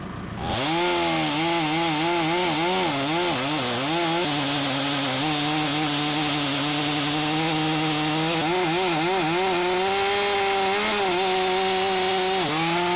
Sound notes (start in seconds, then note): 1.3 chainsaw buzzes